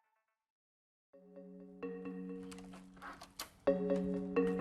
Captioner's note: door clicks; gentle music